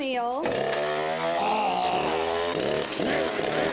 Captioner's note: chainsaw roaring